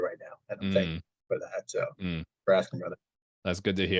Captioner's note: audio distortion